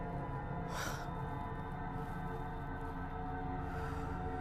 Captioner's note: soft tense music; Eleanor exhales sharply; soft tense music